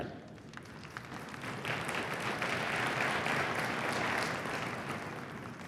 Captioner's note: applause